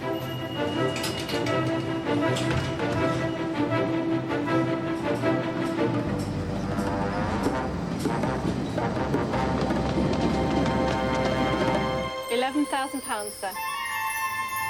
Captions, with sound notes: (train doors shutting) (dramatic music continues) (train roaring) - 11000 pounds, sir.